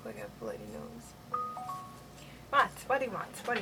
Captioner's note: phone beeps